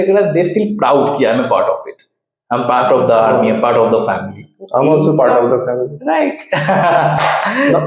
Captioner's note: laughs